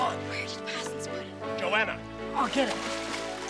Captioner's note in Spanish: Susurrando